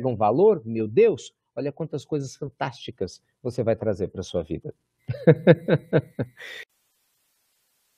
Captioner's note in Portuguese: risos